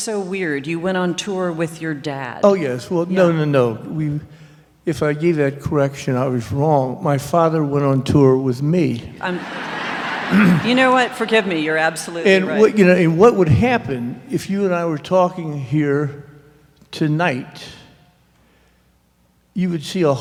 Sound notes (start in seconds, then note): 9.2 laughter